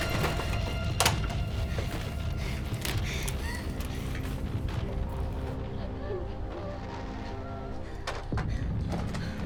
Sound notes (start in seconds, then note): 5.7 Belle whimpering